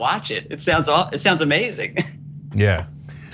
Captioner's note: laugh